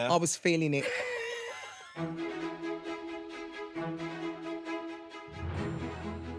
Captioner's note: both laughs; elegant music